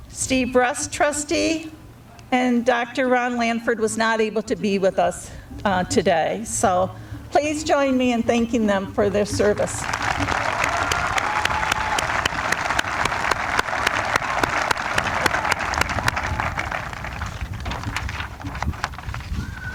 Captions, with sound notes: Steve Rutz, Trustee. And Dr. Ron Lanford was not able to be with us today. So please join me in thanking them for their service. [APPLAUSE]